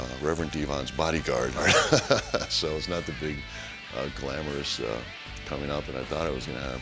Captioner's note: laugh